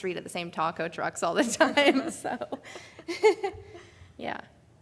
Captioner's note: laughs